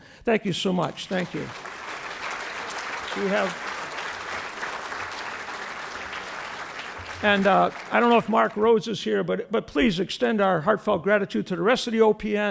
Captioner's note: applause